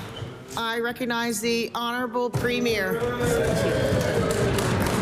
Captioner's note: applause